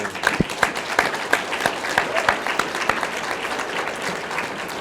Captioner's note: audience clapping